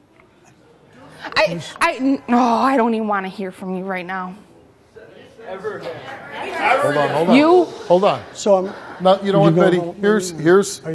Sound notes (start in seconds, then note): 5.1 random Voices From Audience